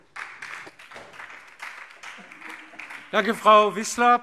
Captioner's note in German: Beifall DIE LINKE und SPD